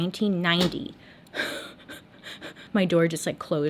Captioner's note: door clicks shut